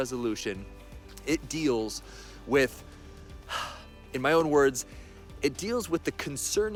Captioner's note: sighs